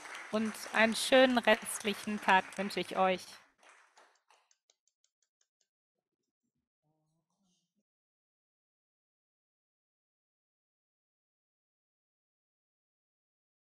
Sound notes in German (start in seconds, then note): 3.5 Applaus; 6.7 Stille